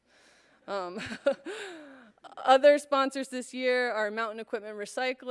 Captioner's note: laughter